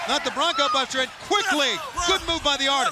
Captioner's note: crowd cheering